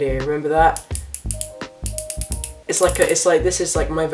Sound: clicking noises

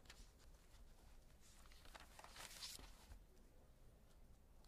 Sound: page Turning

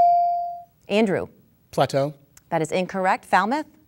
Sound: dinging

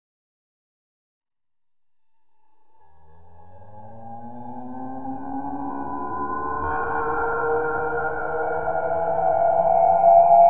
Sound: scary sound

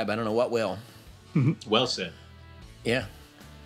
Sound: chuckles

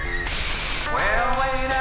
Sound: white noise

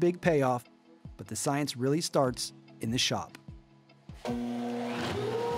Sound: machine sounds

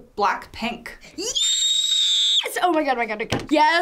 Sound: screams

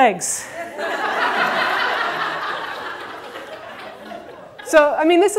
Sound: audience laughter

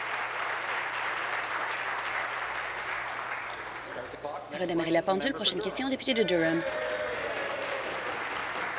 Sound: applause

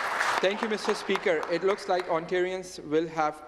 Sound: some Applause

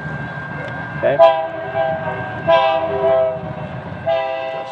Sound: whistle blowing

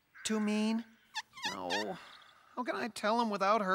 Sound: squeaks

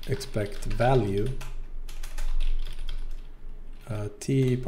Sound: typing sounds

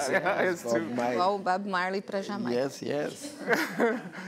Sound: speaking portuguese

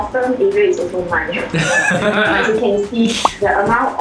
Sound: laughs

